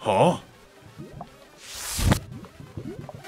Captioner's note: lightning